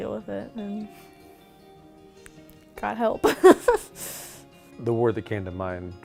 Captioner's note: laughing